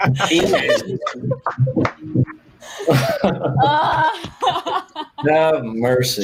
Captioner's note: groan and laugh